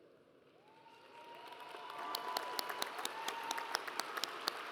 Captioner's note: audience applauds